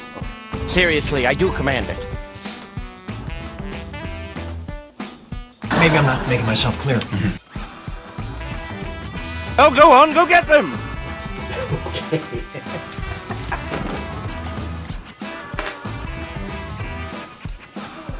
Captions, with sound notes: - Seriously, I do command it. - Maybe I'm not making myself clear. - Oh, go on, go get them! - Okay. (laughing)